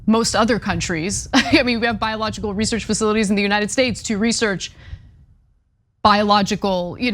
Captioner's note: laugh